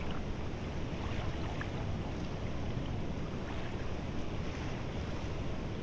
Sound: ambient beach sounds

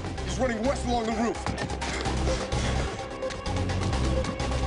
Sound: breathing hard

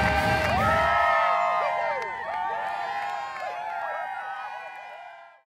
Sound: cheers and applause

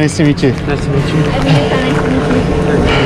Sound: panting

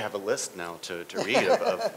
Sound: laughter

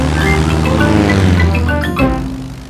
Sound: plane engine revving

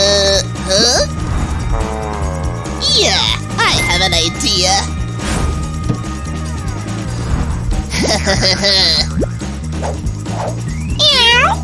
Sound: meows

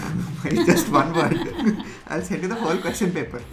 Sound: laughs

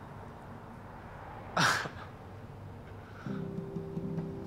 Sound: Keith scoffs

